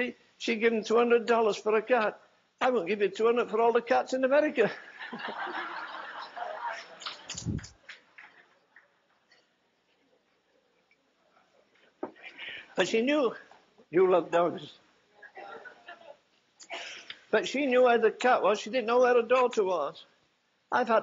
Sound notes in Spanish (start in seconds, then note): 10.5 risas